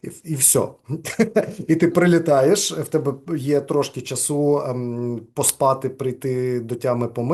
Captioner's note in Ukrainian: сміється